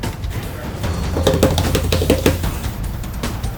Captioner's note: energetic percussive music; hands thumping